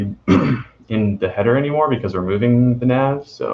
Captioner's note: clearing throat